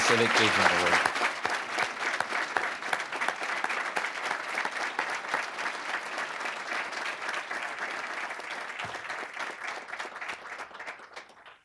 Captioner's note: applause